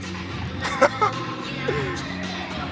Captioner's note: laugh